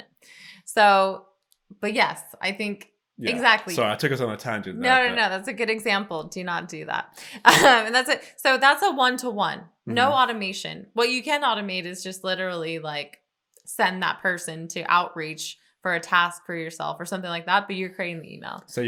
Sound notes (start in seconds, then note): 7.6 chuckles